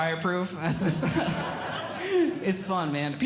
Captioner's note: audience Laughing